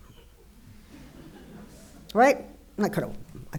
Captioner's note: audience laughing